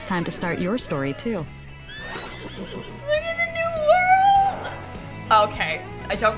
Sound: horse whinnies

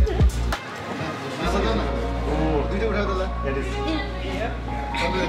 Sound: babble of voices

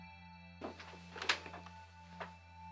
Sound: crinkle

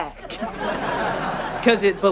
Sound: laughing

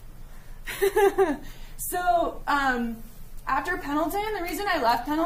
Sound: laughing

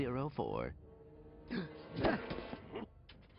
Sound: gasps

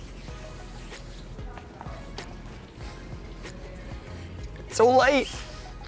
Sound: soft upbeat music; background chatter

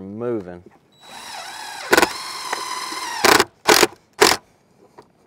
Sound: power tool whirring

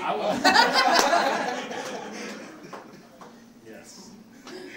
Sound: audience laughing

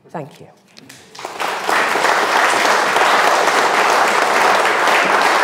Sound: audience clapping

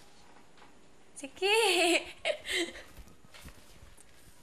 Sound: chuckles

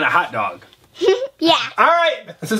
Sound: giggles

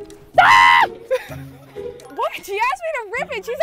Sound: laughs

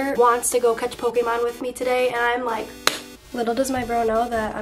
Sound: hands slap

